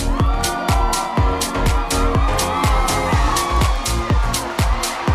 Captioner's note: crowd cheering